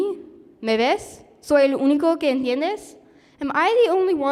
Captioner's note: speaking spanish